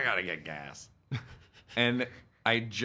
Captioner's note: laughing